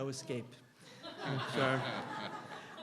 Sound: laughter

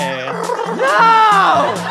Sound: neighs

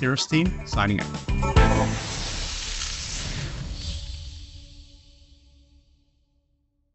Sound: upbeat music; logo hissing

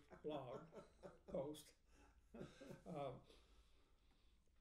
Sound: laughing

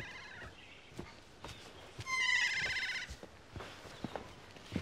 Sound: birds chirp

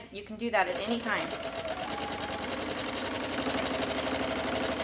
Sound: machine whirs

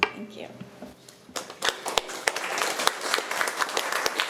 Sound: applause

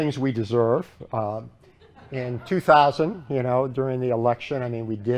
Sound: laughter

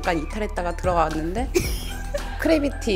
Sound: snicker

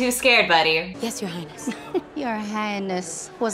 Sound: chuckles

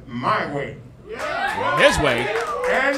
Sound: crowd cheering

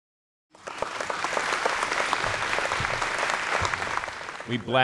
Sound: applause

